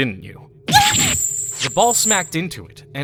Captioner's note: gasp!